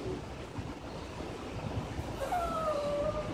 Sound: whimpering

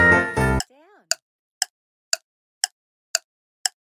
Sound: timer

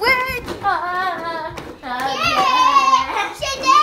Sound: girls yelling

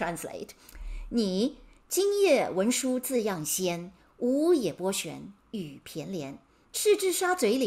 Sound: speaking in Mandarin

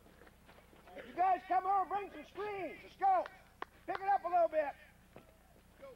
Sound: shouting; clapping

